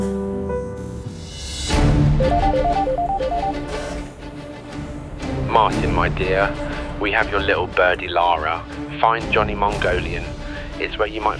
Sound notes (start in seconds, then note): 2.2 phone dialing